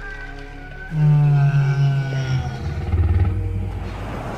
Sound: stegasaurus sounds

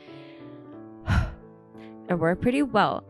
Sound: takes a deep breath

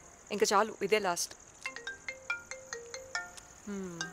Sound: phone rings

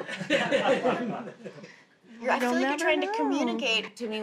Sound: family laughs

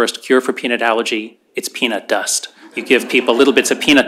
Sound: laughter

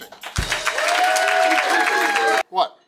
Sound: crowd cheering

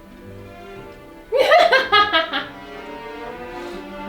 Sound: laugh

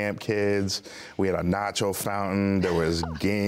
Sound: laughs

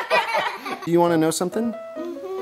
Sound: laughter

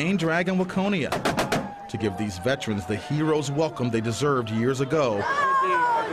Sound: cheering and applause

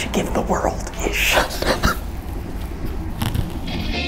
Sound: laughs

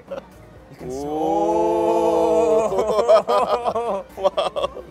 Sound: laughs; all cheering

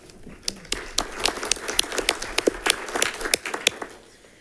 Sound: congregation claps

